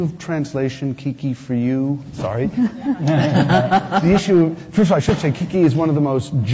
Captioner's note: laughs